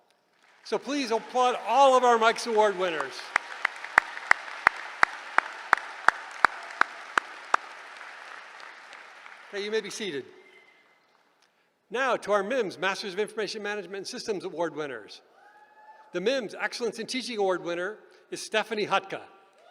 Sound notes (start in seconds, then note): 3.5 applause